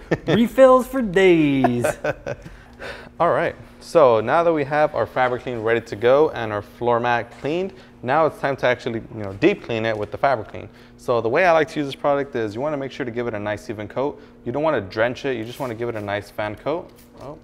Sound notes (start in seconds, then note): 1.7 laughs